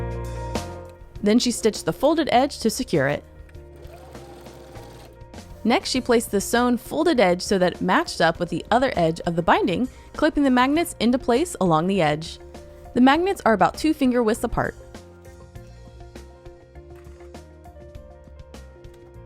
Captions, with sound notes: Then she stitched the folded edge to secure it. (sewing machine whirring) Next, she placed the sewn folded edge so that it matched up with the other edge of the binding, clipping the magnets into place along the edge. The magnets are about two finger widths apart. (gentle music)